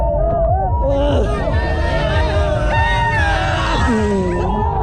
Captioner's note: screaming